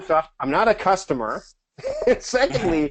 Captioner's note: laughs